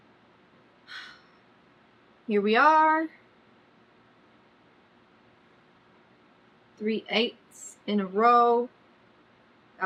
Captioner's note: exhales loudly